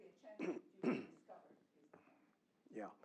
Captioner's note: cough